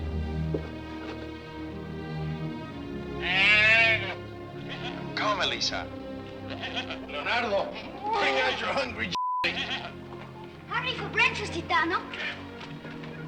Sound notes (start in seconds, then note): 6.4 goat bleats